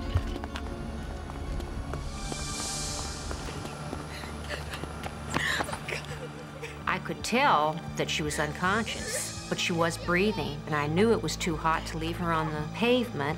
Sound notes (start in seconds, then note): 4.3 crying; 13.1 suspenseful music